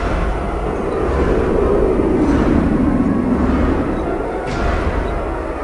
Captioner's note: tornado winds